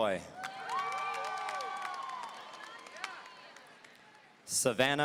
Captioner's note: audience cheering